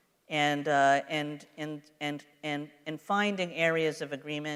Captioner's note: none